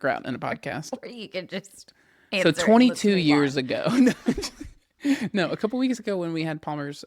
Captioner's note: laughs